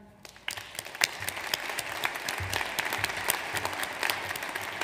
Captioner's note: audience applauds